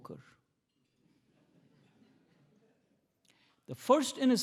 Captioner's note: attendees laughing